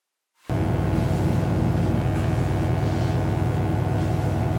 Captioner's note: electric buzzing